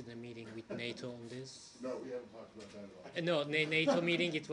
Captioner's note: laughter